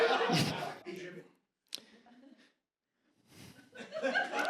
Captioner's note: audience chuckles; audience chuckles